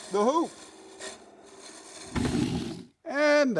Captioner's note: wood sliding